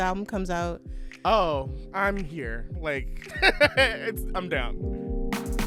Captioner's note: laughter